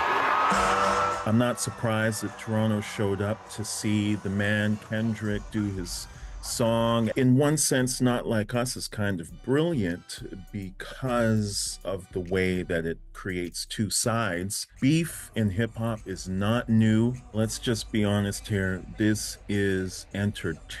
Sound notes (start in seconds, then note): 3.5 cheering